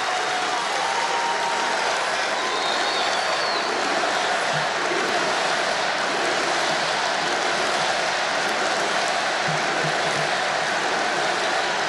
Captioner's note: applause